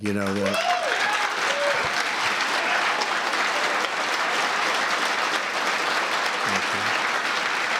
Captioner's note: applause